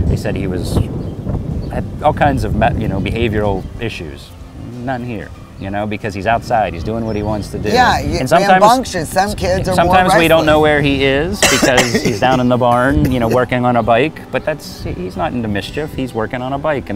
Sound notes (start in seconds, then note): 11.4 coughs